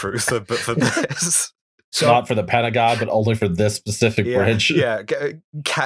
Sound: laughter

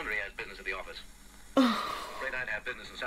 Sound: gasps Of Outrage

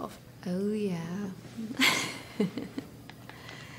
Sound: laughs

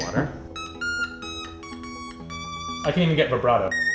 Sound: various tones play

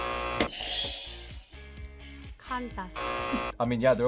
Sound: buzzer; buzzer; buzzer rings

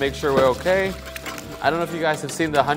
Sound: eggs splashing

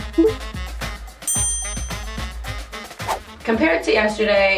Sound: bell dings

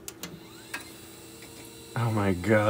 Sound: soft click; drives whirs to life

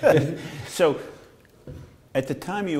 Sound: laughter

